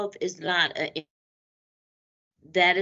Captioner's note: audio Break